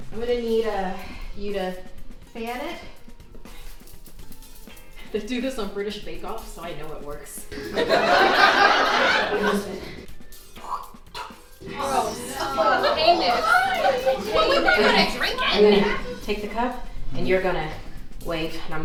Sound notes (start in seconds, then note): 7.5 audience laughs; 11.6 audience grossed out